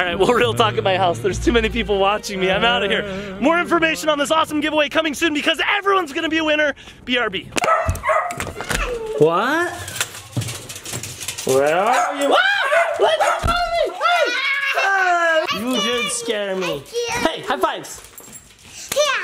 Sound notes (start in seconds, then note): 12.2 screaming